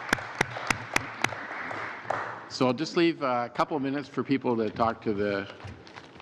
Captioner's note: applause